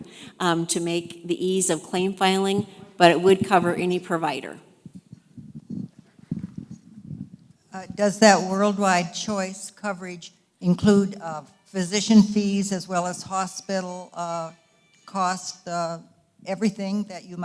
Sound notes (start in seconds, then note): 8.1 voiceover